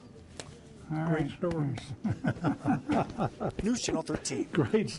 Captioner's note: laughs